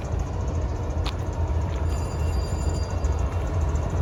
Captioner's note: bell ringing